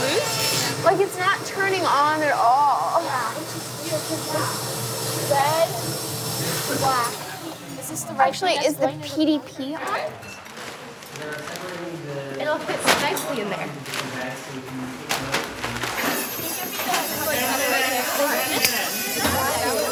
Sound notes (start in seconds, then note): 10.4 plastic crumpling; 15.9 tools drilling